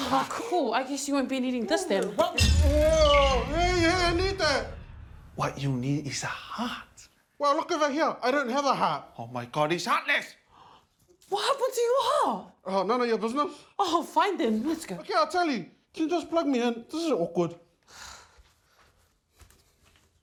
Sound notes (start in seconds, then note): 2.7 electrical whirring